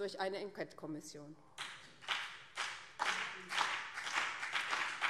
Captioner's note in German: Beifall BÜNDNIS 90/DIE GRÜNEN